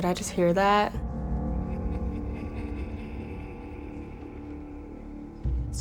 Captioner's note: ghostly laughter